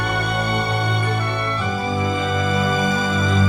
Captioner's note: none